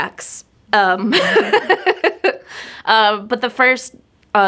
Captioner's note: laughing